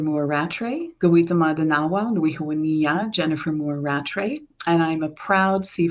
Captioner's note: speaks Cree